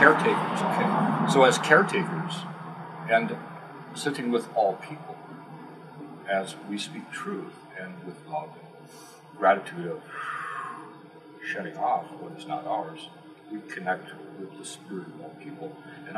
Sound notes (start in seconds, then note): 10.0 exhale; 10.0 inhale